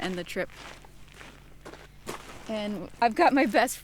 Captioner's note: footsteps crunching